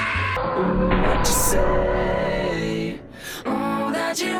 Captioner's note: gunshot